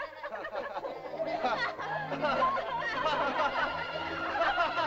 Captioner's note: Tumak laughs; laughter; sentimental music